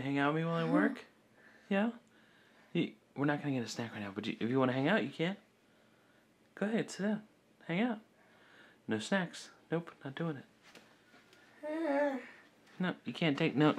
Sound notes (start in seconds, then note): 10.7 murmuring